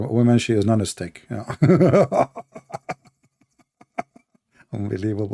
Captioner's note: Ketawa